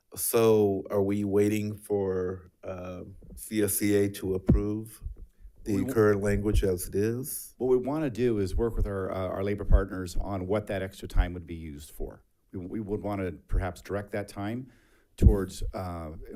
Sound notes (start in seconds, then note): none